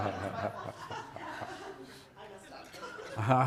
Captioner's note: audience laughing